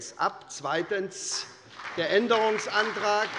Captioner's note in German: Beifall bei der SPD